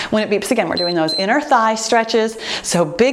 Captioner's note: timer beeps